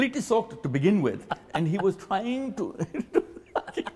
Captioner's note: both laugh